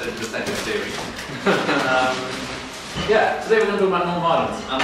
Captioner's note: laughs